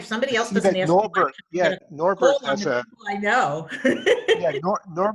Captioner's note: laughs